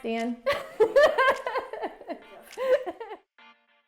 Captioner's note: laughing; soft music